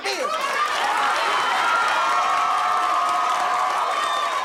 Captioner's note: audience applauding